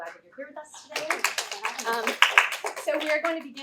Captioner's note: applause